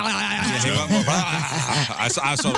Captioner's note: laughing